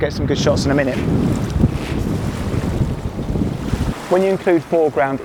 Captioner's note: water rushing